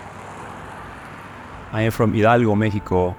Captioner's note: car engine patters